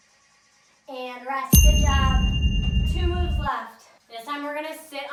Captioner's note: ding